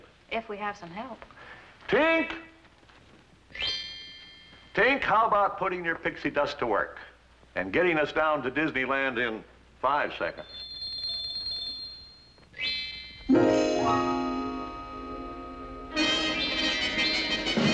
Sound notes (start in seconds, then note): 10.4 bells tinkle; 15.6 fanfare